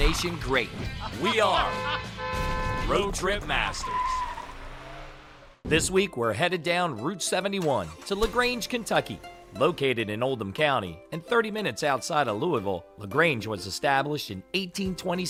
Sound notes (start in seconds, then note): 0.9 laughter; 1.4 voiceover; 3.6 car skids quickly